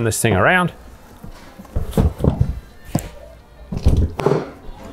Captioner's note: shuffling noise